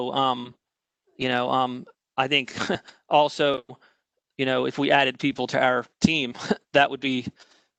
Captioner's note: laughter